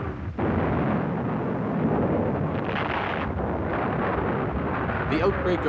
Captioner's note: cannons firing; explosions